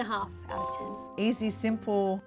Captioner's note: chime